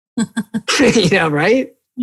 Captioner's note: laughing